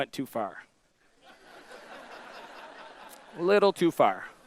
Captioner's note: audience laughter